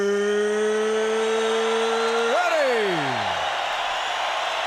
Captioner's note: crowd cheering